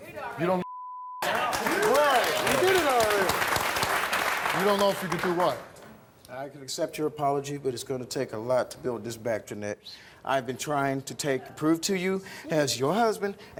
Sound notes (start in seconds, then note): 1.2 applause